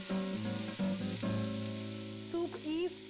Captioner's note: sizzling